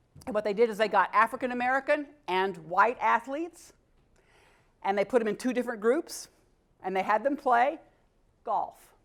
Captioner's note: none